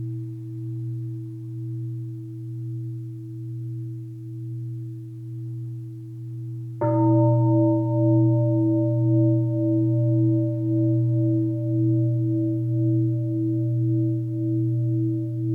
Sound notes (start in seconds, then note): 6.8 deep bell sound